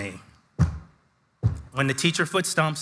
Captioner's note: foot thumps